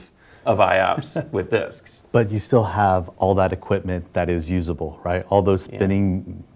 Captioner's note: laugh